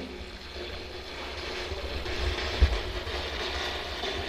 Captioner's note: static buzzing